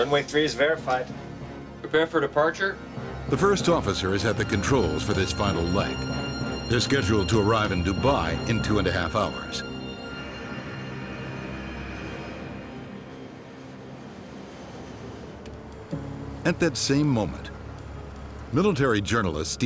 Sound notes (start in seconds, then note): 3.4 voiceover; 10.6 engines accelerating